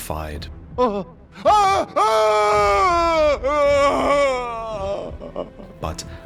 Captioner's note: Igon screams in pain